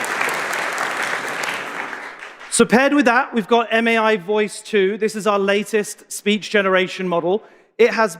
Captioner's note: applause